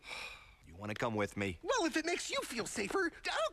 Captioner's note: sighs